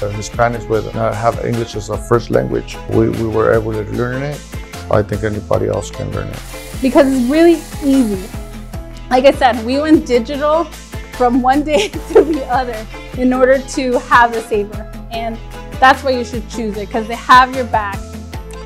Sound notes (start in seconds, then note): 11.7 chuckles